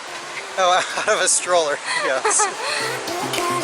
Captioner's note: laughter